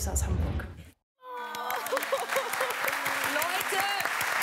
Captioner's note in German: Applaus